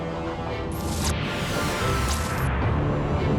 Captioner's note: electric static buzzing